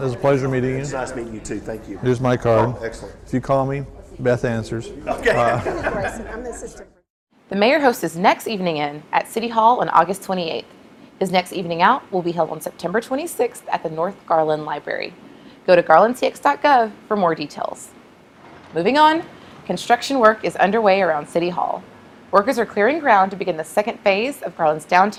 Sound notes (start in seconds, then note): 7.7 laughs